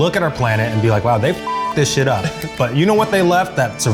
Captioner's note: beep